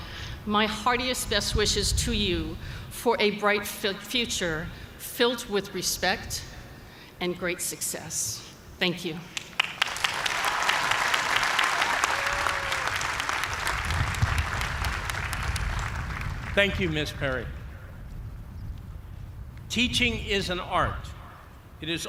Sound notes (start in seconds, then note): 9.4 applause